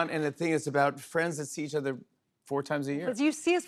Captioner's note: none